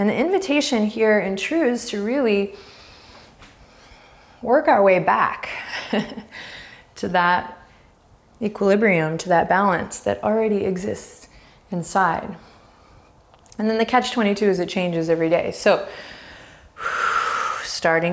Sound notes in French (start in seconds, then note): 5.8 rires